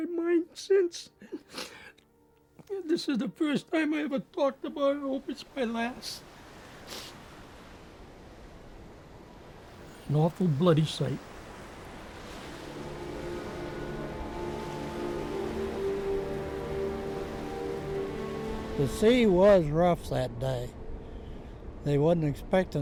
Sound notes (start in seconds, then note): 6.8 sniffles; 13.6 ominous music; 13.6 waves gushing